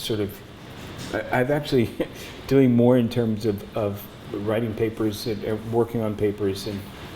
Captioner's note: laughs